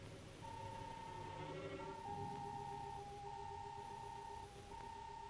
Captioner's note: electronic beeping